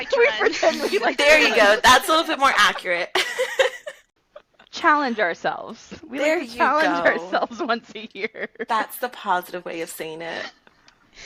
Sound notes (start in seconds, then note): 0.0 laughing and overlapping; 0.0 overlapping with laughter in background; 3.8 laughing; 6.0 laughing